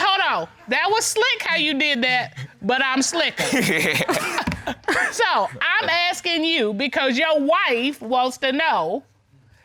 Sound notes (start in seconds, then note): 3.3 laughs